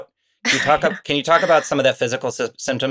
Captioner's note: Anna laughs